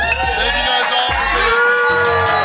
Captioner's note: crowd cheering